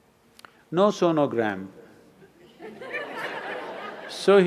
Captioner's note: laughter; 笑聲